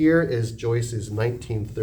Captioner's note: none